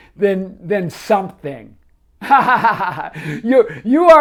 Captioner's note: laughs